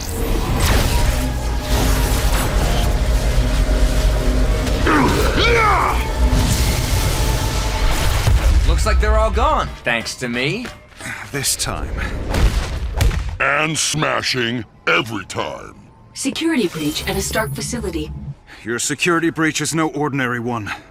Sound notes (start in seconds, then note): 0.0 electrical zapping; 2.6 humming; 4.8 grunts